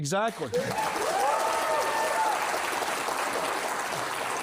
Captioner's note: applause